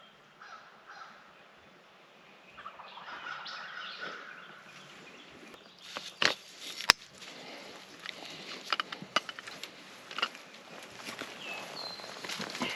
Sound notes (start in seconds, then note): 2.9 turkey gobbles; 9.8 birds chirping